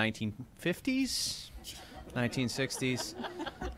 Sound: laughter

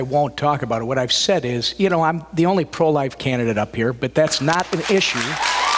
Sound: applause

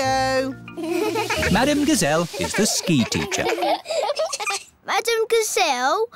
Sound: laughing

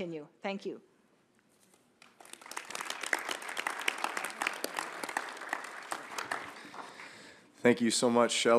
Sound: applause

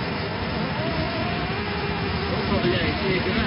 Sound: sound of static electricity hitting cockpit windows

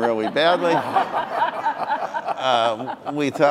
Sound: audience laughing

